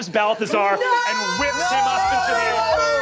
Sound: players screaming

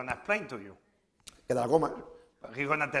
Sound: speaking spanish

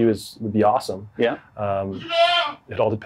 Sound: goats bleating

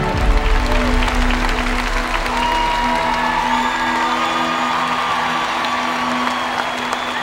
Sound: applause and cheering

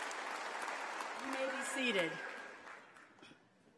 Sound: applause

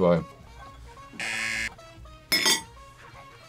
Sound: buzzer

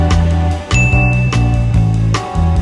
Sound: relaxing music; ding

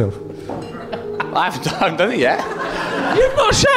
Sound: laughing

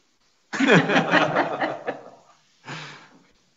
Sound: all laughing

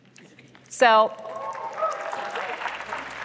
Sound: applause

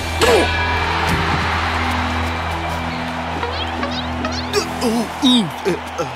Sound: cheering

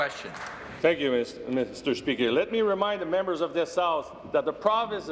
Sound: some applause

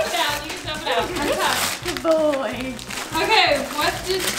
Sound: family chattering; paper tearing

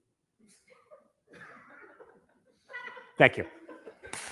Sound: people laughing

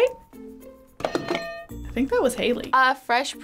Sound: bell rings

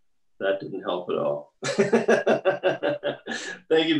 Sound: laughs

